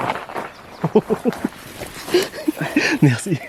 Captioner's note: laughs